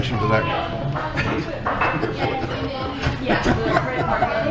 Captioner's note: he laughs